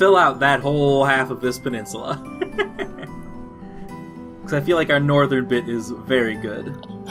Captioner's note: laughs